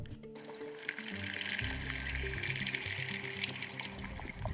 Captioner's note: rattling gently